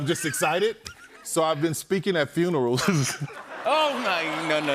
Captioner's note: laughs